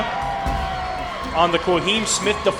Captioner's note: crowd